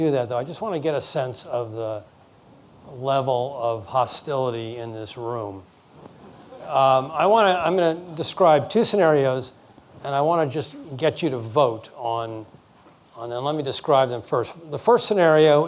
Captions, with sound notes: in his comments. Before I do that though I just want to get a sense of the level of hostility in this room. (laughing) I'm going to describe two scenarios and I want to just get you to vote on them.